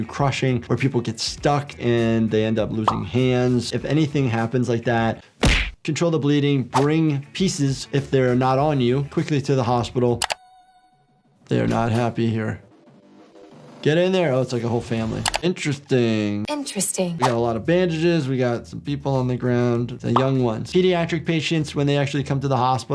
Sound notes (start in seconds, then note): 5.4 hands thudding; 10.2 mouse clicking